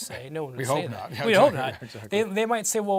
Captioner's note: laugh